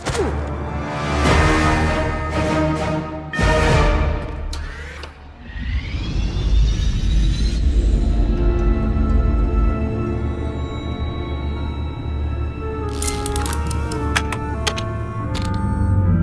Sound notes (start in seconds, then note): 0.1 tense music; 4.5 spaceship whirring; 9.7 intriguing music; 13.0 buttons clicking